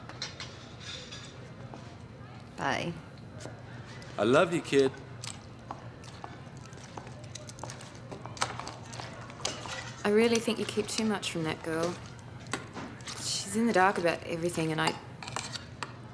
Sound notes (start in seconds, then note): none